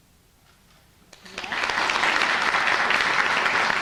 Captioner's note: applause